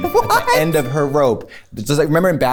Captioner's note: laughs